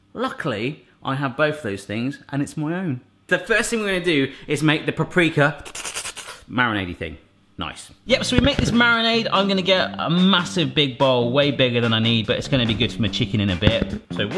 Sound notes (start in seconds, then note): 5.6 slurping